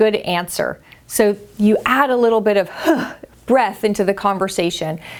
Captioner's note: huffs